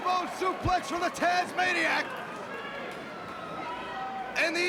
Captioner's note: crowd cheering